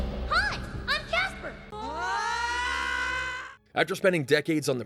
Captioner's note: both screaming